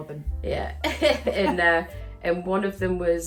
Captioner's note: laughs